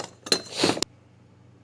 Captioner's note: sniff